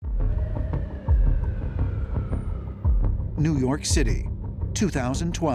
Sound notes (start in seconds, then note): 0.1 siren blaring in distance